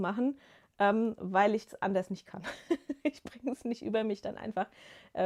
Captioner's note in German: gelächter